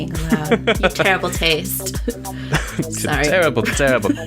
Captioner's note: laughs